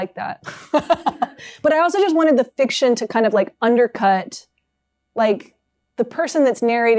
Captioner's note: laughs